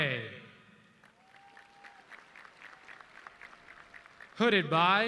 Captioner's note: audience clapping